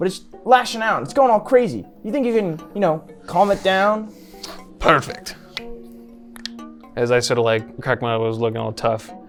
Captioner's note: cracks knuckles